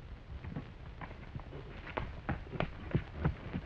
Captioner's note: hooves clattering